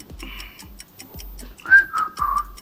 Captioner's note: шүгэлдэв